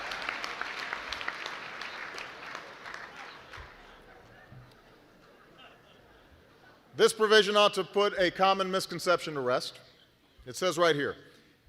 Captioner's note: laughter